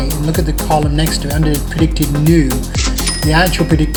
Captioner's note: dings